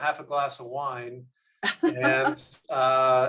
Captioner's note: laughs